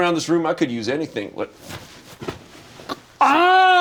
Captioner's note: pillow thumps